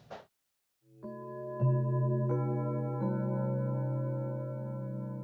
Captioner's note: bells chiming